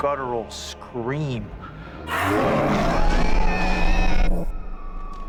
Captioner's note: roaring